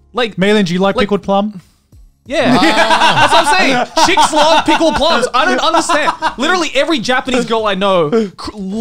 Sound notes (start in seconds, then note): 2.4 laughing